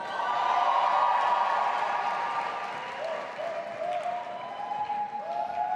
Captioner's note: audience applauding and cheering